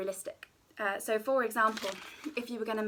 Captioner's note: paper crinkling